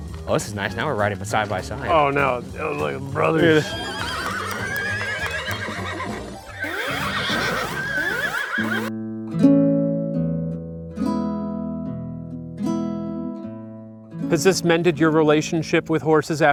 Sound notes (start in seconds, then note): 3.2 horse whinnying; 4.1 arcade sound effects play; 8.6 mellow acoustic guitar music